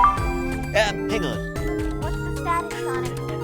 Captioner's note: tails on comm